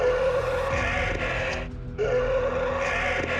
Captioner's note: dinosaur roaring; both roaring; alleged bigfoot roaring